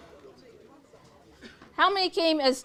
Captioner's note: audience chatters